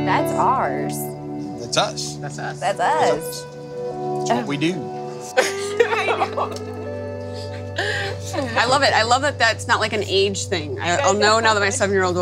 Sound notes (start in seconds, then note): 5.3 laughs